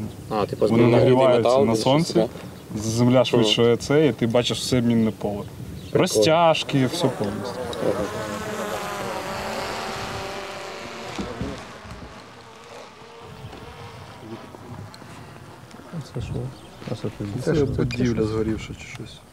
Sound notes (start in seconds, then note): 8.2 drone buzzing